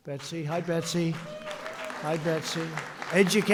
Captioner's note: applause